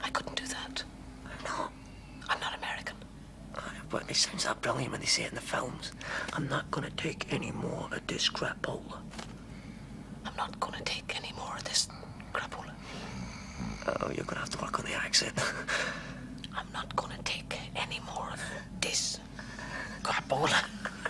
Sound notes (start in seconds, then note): 6.4 in american accent; 10.4 in her normal voice; 16.6 in laboured american accent